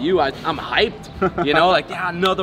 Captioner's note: laughs